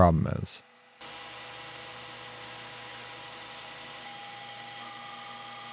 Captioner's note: machinery whirring